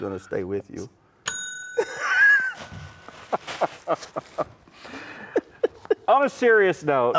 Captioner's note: bell dings; laugh